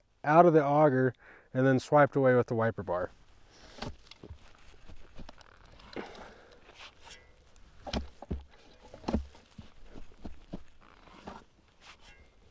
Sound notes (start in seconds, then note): 3.6 shovel thumping